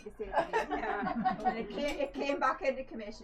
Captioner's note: laughter